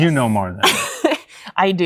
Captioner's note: laughter